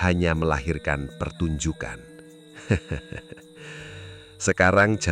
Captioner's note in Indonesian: tertawa